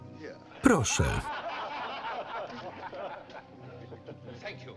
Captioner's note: laughter